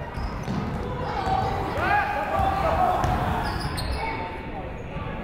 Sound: crowd chattering

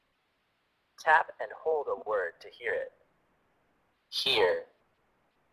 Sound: voiceover

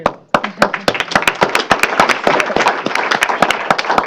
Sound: applause

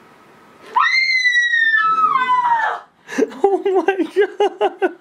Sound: screaming

